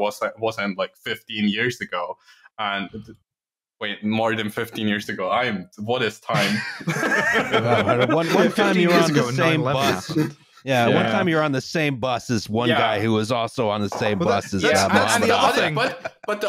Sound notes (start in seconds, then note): 6.3 laughter; 9.1 laughing